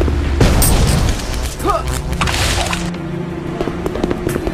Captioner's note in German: Angestrengter Laut, peitschendes Geräusch